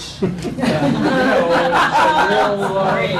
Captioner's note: laughter